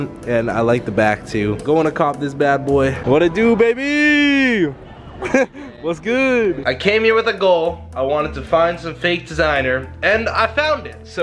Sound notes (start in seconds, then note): 4.6 laughs